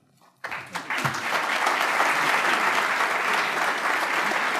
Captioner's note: crowd applauding